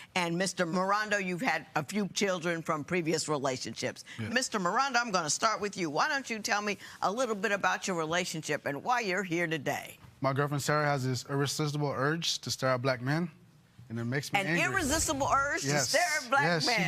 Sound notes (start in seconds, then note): none